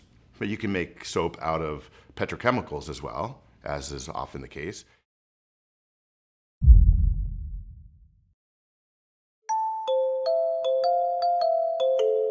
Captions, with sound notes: but you can make soap out of petrochemicals, as well, as is often the case. (muffled boom) (gentle music)